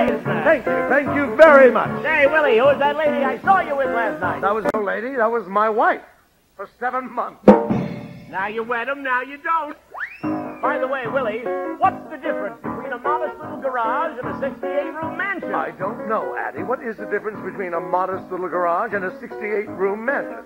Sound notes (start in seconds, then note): 7.4 rim shot; 9.9 silly slide whistle